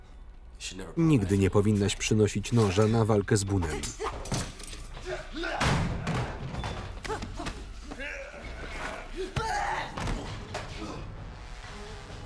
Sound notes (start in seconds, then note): 2.2 grunting